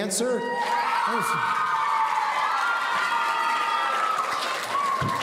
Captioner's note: audience cheering